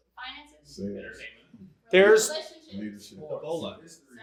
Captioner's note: audience answering